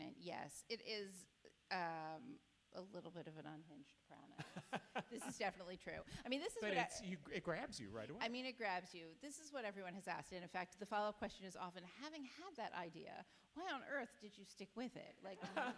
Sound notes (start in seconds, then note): 4.4 laughs